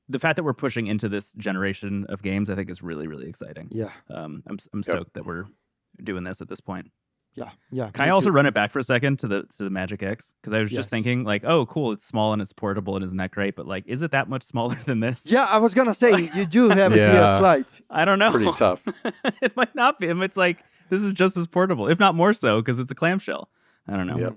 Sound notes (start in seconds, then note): 15.2 laughs